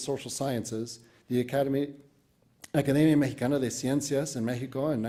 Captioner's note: speaks Spanish